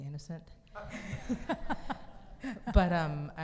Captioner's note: audience laughs